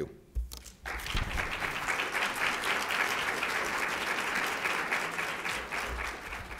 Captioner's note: applause